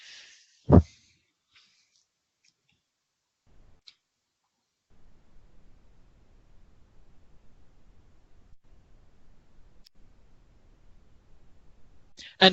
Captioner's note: silence